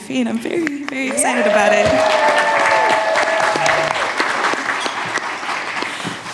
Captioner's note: audience cheers and applauds